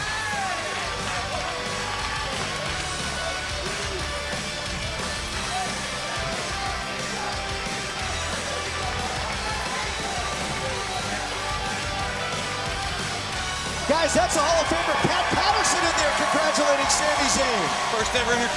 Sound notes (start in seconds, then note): 4.7 crowd chatter